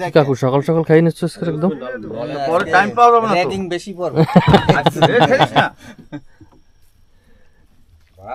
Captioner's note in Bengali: সশব্দ হাসি